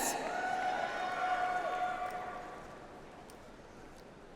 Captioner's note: audience applauds